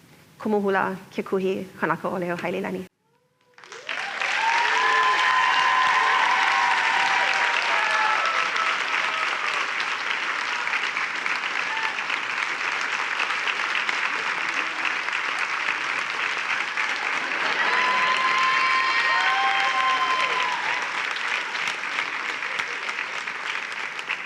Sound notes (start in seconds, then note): 3.4 applause and cheering